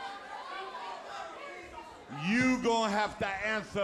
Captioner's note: crowd chatter